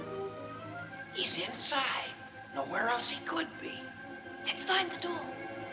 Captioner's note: Bob Whispers